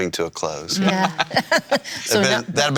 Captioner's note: laughing